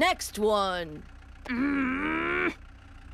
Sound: growls

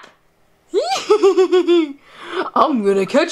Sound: laughs

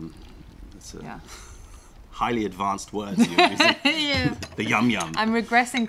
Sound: laughter

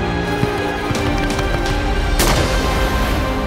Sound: wings flapping; gun shooting

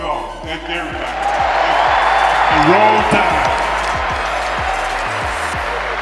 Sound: crowd roars

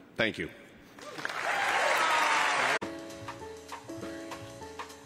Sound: applause

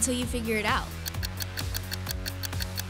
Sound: clock ticking

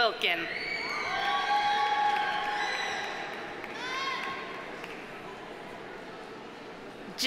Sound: audience cheering; audience applauding

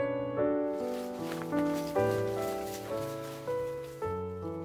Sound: rustling sleeping bag; soothing piano music

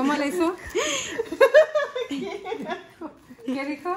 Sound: laugher

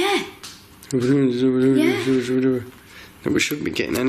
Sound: mumbles

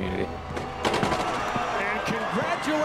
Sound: rim clangs

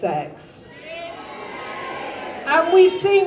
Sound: audience jeers

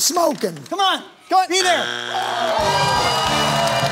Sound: buzzer sounds; cheering/applause

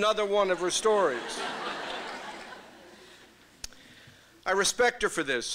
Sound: laughter

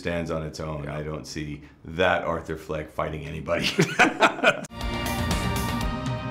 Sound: laughs

